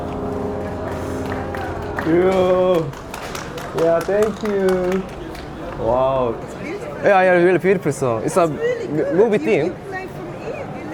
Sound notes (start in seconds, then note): 0.1 applause~ Clap clap clap; 1.9 applause from all around the piano